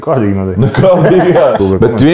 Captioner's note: laughs